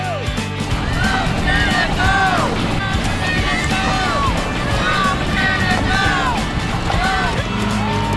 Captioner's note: fans shouting from boats; fans on shore applauding and cheering